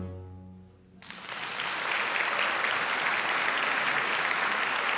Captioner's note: audience applauding